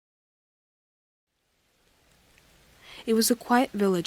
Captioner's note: rain